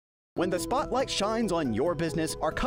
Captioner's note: voiceover